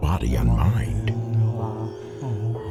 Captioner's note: chanting